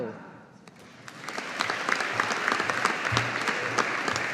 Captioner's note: audience applauding